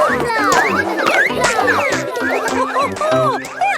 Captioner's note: snorts